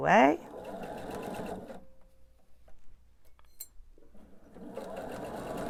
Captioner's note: sewing machine whirring